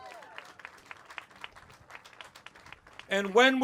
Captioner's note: cheers